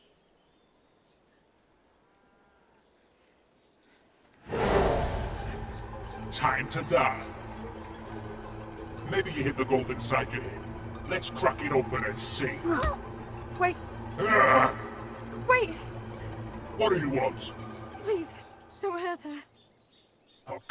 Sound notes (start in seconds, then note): 4.5 intense music; 12.7 punch thudding; 14.2 leprechaun grunting